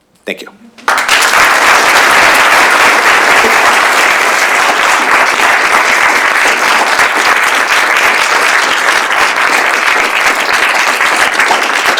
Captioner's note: applause